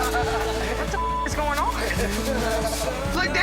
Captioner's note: beep